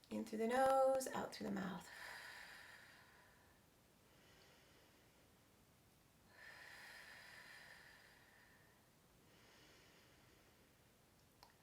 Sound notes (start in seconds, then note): 1.9 exhaling; 4.6 inhaling and exhaling